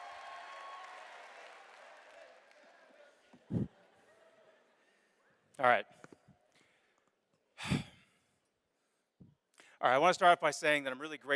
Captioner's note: cheers and applause